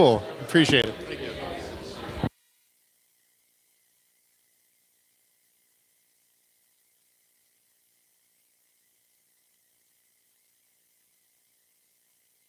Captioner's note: no audio